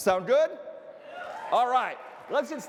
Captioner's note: audience cheering